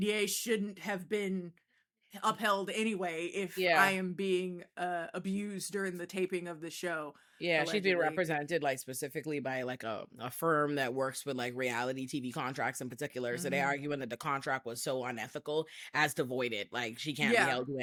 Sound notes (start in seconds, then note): none